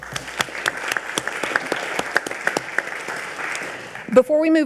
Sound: all applauding

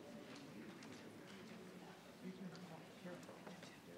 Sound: people chatter

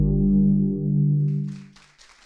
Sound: applause

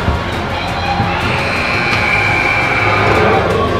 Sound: buzzer sound

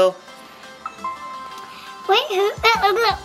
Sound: doorbell ringing

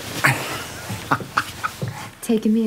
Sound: laughs

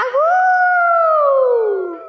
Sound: howling

